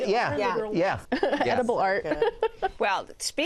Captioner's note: laughs